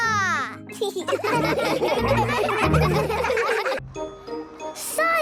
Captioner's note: laughing